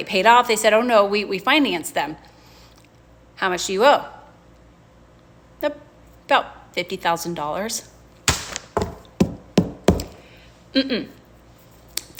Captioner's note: bangs desk